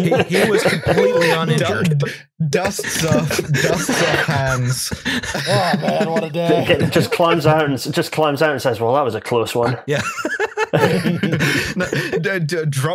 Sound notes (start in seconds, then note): 0.0 laughter; 9.6 laughter; 9.6 laughs